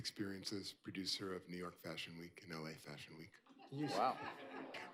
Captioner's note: laughter